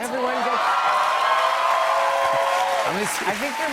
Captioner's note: cheers and applause